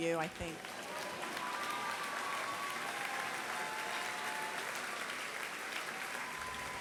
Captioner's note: applause